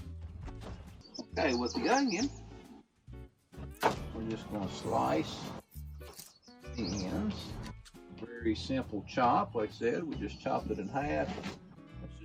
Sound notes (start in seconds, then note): 0.7 bird chirping; 5.7 onion peel crunching